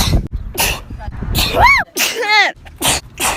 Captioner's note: achoo; sneezes in a parking lot